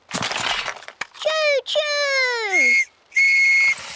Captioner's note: blasts on whistle